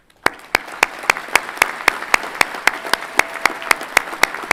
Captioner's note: everyone clapping